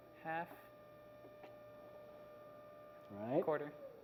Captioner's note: video noise